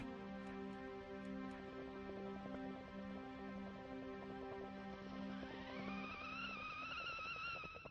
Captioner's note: sound of water boiling and whistling steam